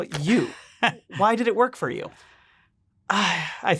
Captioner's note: chuckles